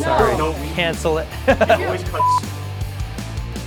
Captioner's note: laughs; upbeat music